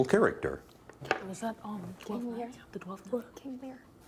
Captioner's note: whispering